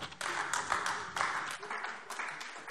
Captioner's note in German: Beifall AfD